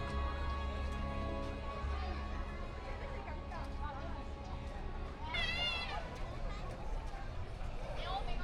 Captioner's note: people chattering